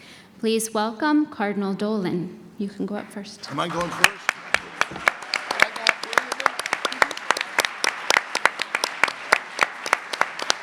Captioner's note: audience applause